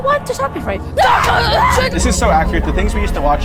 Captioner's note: characters screaming